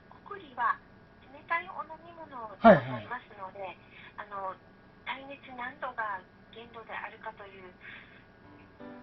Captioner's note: laughs